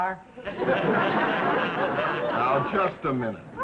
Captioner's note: audience laughing